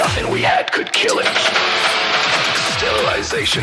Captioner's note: Static